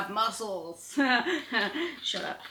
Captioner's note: chuckles